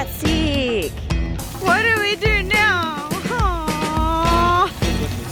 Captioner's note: water spraying